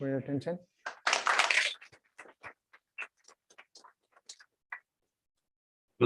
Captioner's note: applause